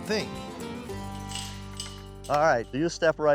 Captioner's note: gate unlocking, clanking